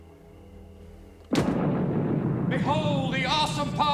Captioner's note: pyrotechnics roar